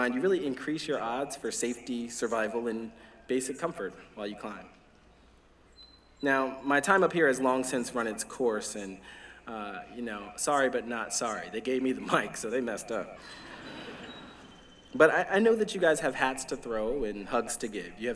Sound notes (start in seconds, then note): 13.2 laughter